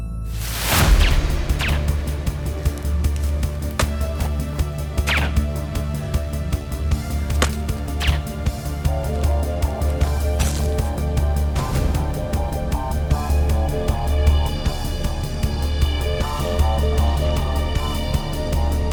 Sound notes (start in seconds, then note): 0.2 guns firing; 0.2 intense music; 3.3 dart thuds; 5.0 gun fires; 7.4 gun fires; 8.0 dart clacks; 8.3 intense music